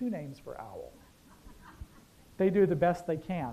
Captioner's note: laughter